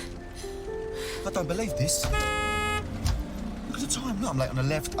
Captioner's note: honks horn